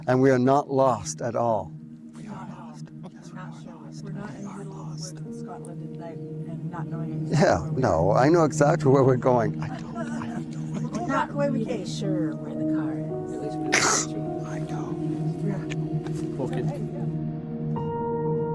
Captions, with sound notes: And we are not lost at all. - We aren't lost. - Yes, we are lost. - We're not in the middle of the woods. Scotland. And they're not knowing anything... - Yeah, no, I know exactly where we're going. I don't know. I have no idea. - We're not going to be sure where the car is. [scoffs] - I know. - Yeah. - I don't. - Okay.